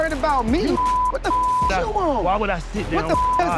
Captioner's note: beep